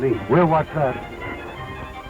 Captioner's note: gunshots